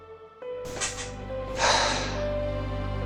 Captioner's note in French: Soupir calmée